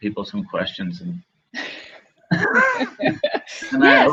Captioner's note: laughing